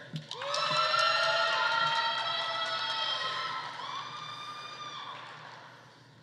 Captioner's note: audience applauding; audience cheering